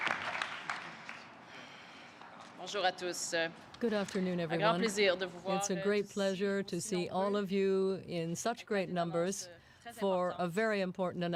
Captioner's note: applause